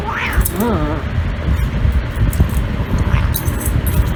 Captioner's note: Caprice yowls; Caprice growls; Caprice and Ella growls; Caprice growls; Ella barks